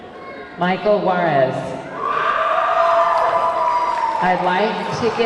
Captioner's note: audience clamoring